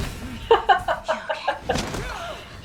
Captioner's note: laughs